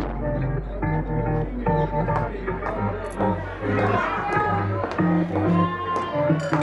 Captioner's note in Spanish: ambiente festivo